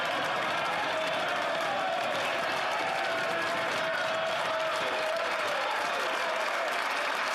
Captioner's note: some Applause